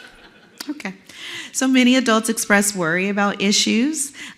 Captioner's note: laugh